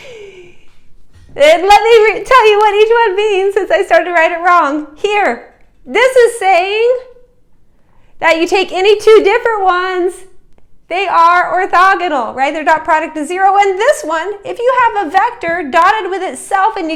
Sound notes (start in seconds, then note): 0.0 chuckle